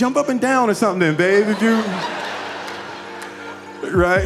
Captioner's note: audience laughing